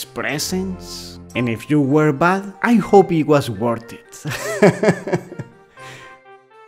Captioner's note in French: rires